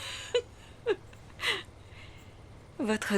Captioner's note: laughing